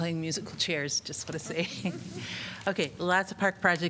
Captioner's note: laughter